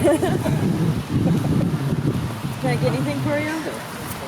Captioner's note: laughing